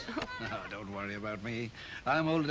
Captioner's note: chuckles